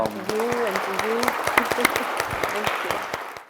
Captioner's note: audience applauding